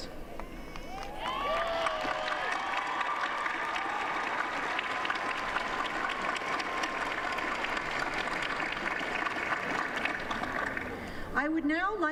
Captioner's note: applause